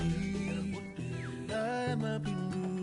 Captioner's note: Jimmy whistles